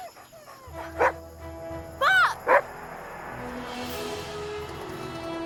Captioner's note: dogs whining; Buck barking